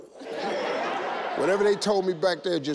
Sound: all laugh

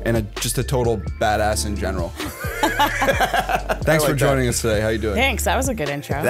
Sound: chuckle

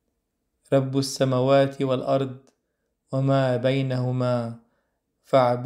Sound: Arabic

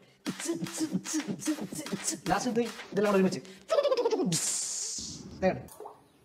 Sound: imitating a rhythm of music

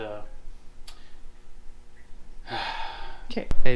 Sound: sigh

